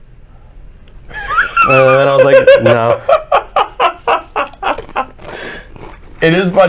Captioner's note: cackling